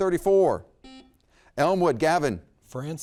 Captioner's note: buzzer beeps